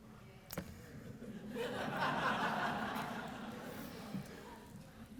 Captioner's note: laughter